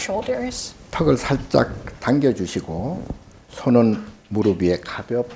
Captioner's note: speaking Korean